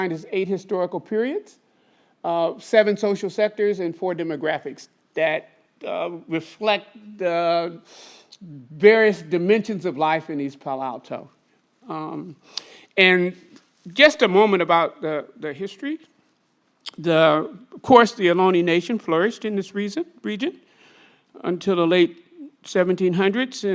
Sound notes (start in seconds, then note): 17.1 speaks foreign language